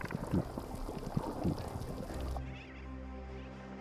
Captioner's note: clacking and bubbling